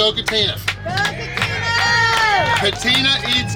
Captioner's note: clapping & Cheering